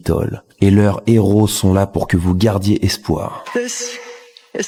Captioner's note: french dialogue continues